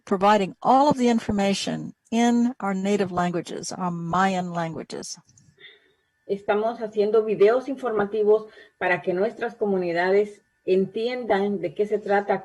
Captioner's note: spanish